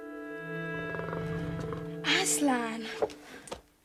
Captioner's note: growling